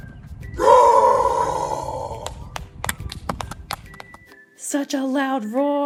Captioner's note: clapping from off screen